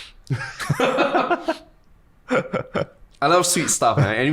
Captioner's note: both laughing